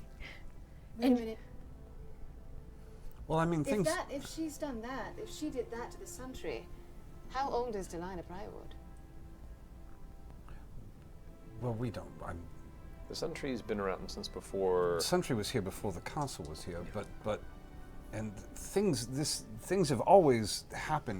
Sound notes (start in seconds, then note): none